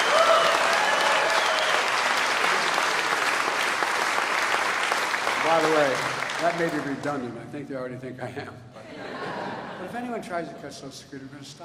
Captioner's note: applause